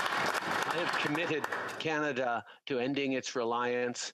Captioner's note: applause